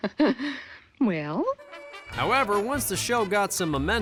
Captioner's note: laughs mischievously